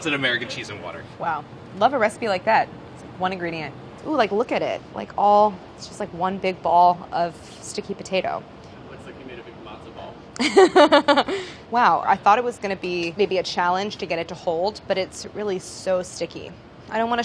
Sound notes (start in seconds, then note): 10.4 laughs